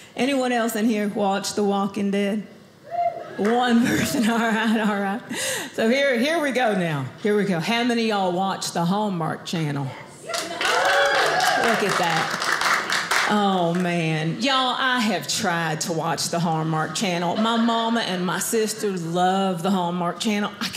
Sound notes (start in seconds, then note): 2.9 audience member cheers; 10.2 audience cheers